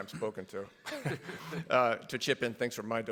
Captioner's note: everybody laughs